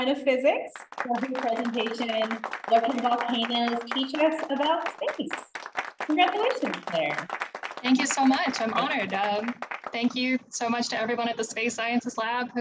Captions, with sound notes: of Physics for her presentation, "What Can Volcanoes Teach Us About Space." Congratulations, Claire. (hands clapping) - Thank you so much, I'm honored. Thank you so much to everyone at the Space Sciences Lab